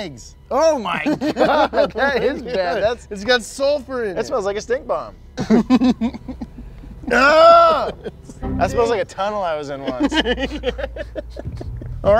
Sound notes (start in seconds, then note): 5.3 both laughing; 7.1 yells; 9.7 both laughing